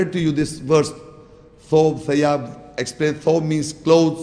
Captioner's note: Arabic